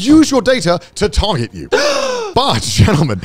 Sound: exclaiming

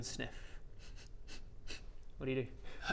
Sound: sniff sniff sniff

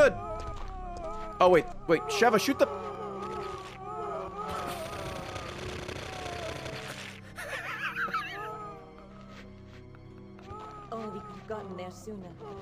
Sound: laughs

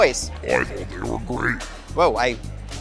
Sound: deep voice

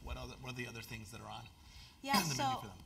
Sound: cough

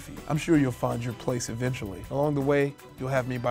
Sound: none

